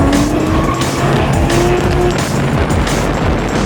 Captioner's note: tires squealing